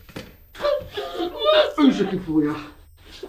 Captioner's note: muffled crying